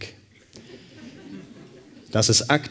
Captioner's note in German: Lachen